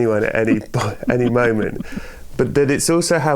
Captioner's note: laughter